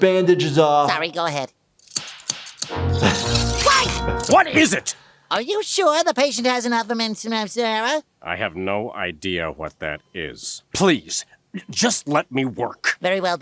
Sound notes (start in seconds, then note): 1.8 snapping scissors; 2.9 laughing